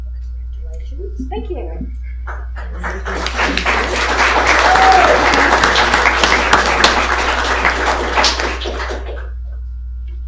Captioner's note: applause